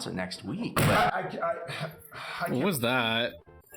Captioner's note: scoffs